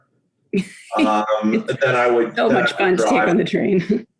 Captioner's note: laughing